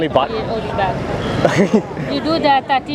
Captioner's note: laughs